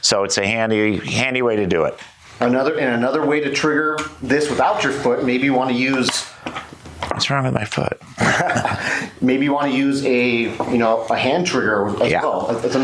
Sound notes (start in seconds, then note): 8.1 laughs